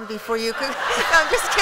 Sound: laughter

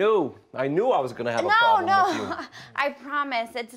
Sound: chuckles

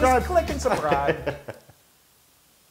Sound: laugh

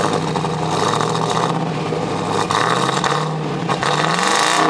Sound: car engine revs

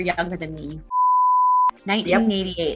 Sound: beep

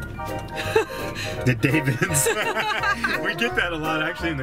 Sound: laughing

